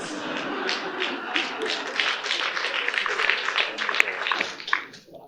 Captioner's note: audience applauding